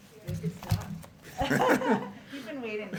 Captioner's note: laughter